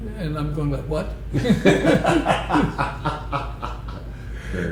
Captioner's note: laughter